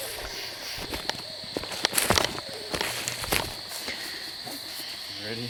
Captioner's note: insects chirp